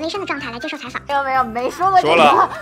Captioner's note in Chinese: 哈哈哈哈